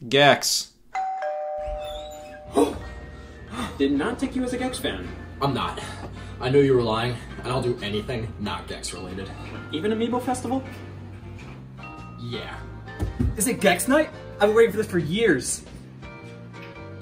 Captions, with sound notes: "Gex". (doorbell rings) (door squeaks) Did not take you as a "Gex" fan. - I'm not. I know you were lying and I'll do anything not "Gex" related. - Even to "Amiibo Festival"? - Yeah. - Is it "Gex" night? I've been waiting for this for years.